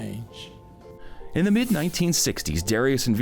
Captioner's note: air whooshing